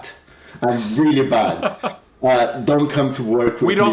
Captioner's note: laughs